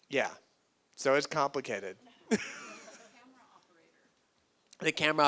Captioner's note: laughs